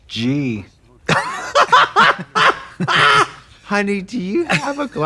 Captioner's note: Katya giggles; Trixie cackles